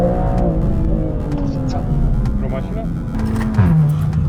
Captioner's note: engine sounds